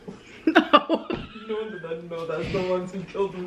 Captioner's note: laughs